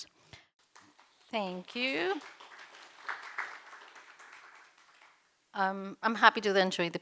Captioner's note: audience applauding